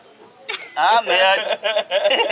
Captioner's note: laughter